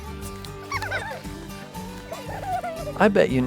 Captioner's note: children laughing